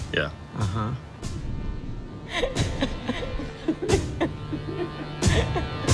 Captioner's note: laughter echoing